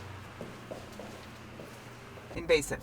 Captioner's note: footsteps thumping